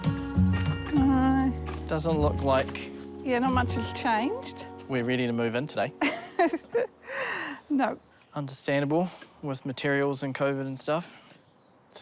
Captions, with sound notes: - No. - Doesn't look like... - Yeah, not much has changed. - We're ready to move in today. - (LAUGHS) Nope. - Understandable, with materials and COVID and stuff.